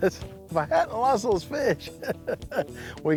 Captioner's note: laughs